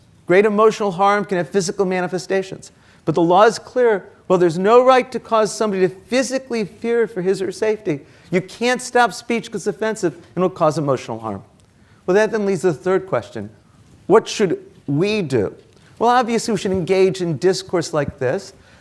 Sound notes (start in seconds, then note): none